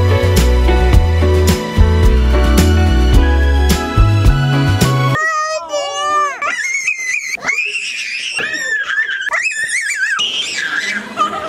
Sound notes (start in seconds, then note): 6.3 squealing